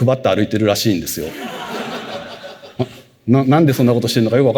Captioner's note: laughter